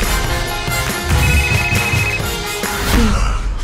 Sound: cell phone ringing

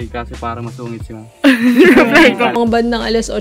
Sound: laughs

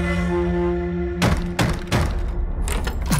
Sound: banging on door

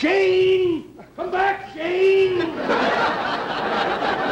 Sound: audience laughter

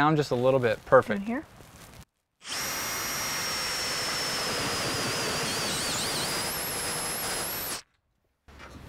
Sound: drill whirring, no additional audio

